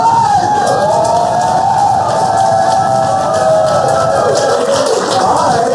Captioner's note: cheers and applause